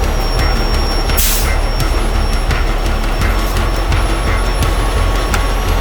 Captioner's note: tow truck winch whirring; tow truck brakes hissing